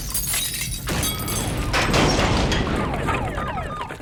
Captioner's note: siren wailing